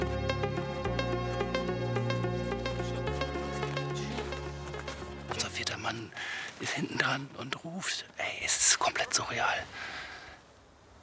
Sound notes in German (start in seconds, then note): 0.0 Unruhige Musik; 5.2 flüsternd